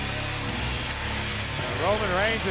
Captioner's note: chain rattling